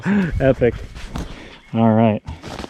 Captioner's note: laughs